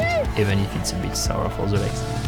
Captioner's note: runners cheer